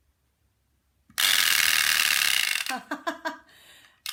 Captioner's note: teeth chattering